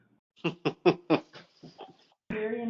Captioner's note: laughs